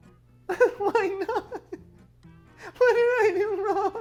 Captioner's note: sobbing